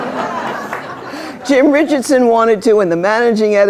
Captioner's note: laughter